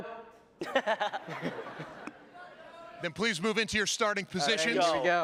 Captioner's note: laughter